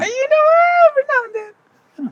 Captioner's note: murmurs